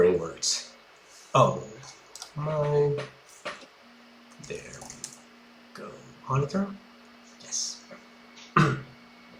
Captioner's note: monitor turns off